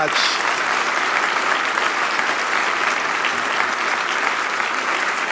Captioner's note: applause